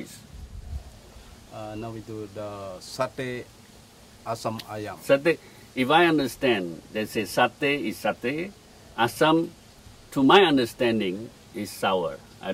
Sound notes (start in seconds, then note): 1.5 chef speaking